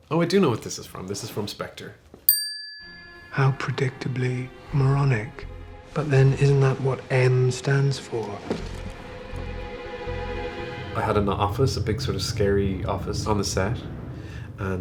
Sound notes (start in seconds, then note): 2.3 bell chimes; 9.2 anxious music